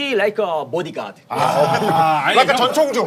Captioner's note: is sighing